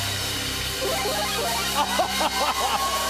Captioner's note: Mario power-up sound plays; laughing